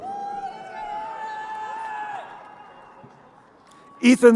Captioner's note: crowd cheering